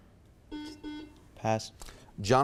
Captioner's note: buzzer beeps